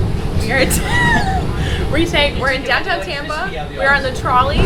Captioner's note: laughs